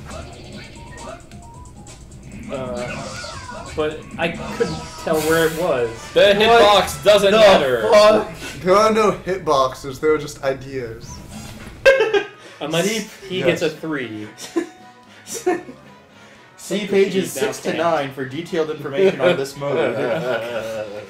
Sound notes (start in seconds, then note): 11.8 laughs